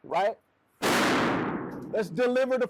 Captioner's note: gunshot booms